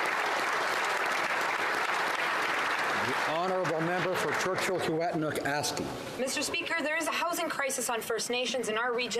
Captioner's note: applause